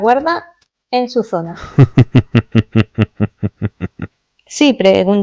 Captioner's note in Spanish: risas